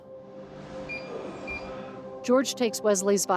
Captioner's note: machine beeping